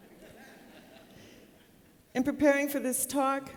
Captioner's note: laughter